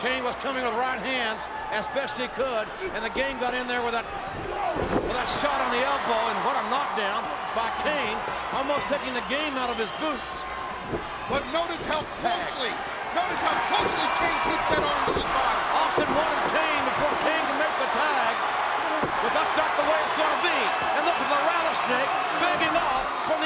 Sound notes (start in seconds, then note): 13.3 audience cheers